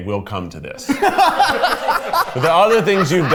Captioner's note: everyone laughs